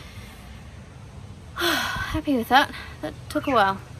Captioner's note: sighs with sense of satisfaction